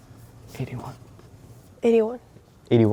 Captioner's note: pencils scribbling; quietly